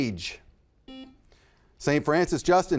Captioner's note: buzzer buzzes